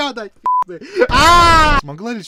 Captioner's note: inhales